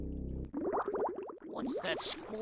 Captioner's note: bubbling